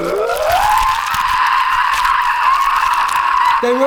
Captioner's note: jolly little chrustmus shriek